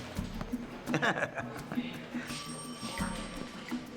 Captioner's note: laughs